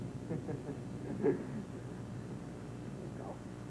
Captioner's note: Josh laughs